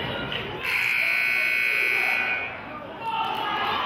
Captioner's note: buzzer honks